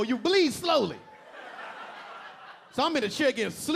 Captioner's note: audience laughing